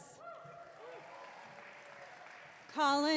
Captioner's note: audience clapping